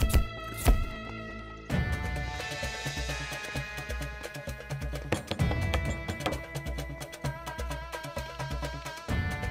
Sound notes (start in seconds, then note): 5.1 Knocks on door